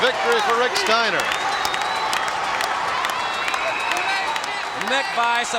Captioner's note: crowd clap and cheer